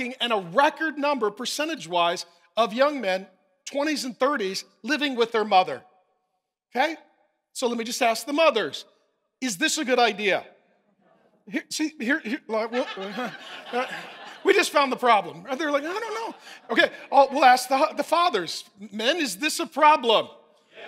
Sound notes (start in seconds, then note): 11.8 stammers; 12.1 congregation laughing